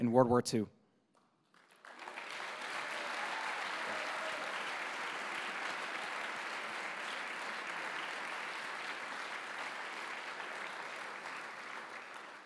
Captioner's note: applause